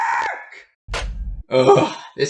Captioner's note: slams receiver